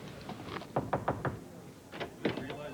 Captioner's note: knock on door